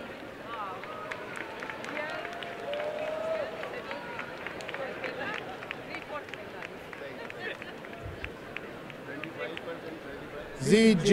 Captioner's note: applause and cheering